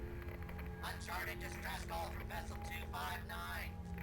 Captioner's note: radio Voice